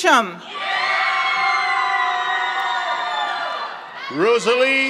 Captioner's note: members of the audience cheer